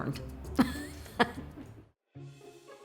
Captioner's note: softly laughs; gentle music